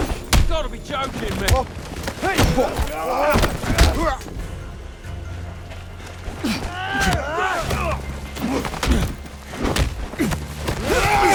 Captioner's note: groaning